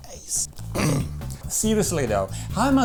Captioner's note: clear throat